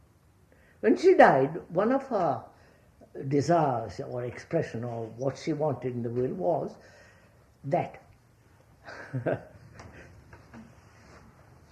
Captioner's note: laughs